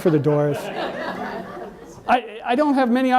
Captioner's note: audience laughs